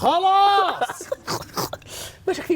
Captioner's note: laughing